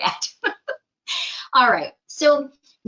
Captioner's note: laughs